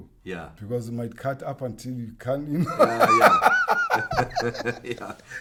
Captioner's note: laughs